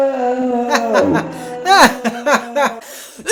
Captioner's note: laughter, but evil